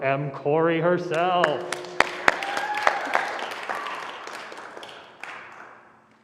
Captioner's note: applause